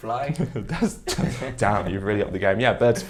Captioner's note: chuckles